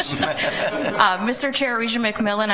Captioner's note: laughter